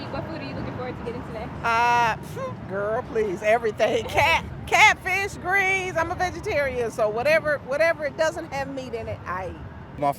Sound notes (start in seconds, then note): 3.7 chuckles